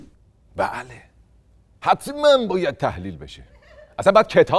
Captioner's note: laughter